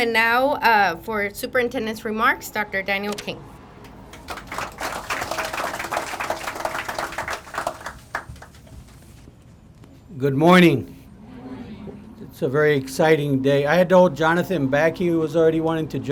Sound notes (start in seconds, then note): 3.8 crowd applauding; 11.4 crowd